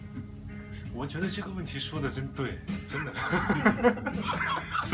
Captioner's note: laughs